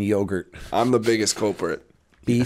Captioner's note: chuckle